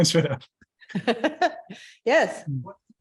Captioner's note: laughter